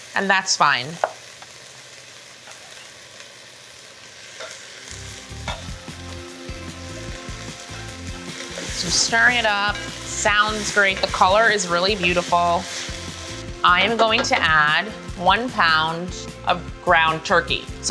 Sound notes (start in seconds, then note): 4.9 light upbeat music; 4.9 pan sizzling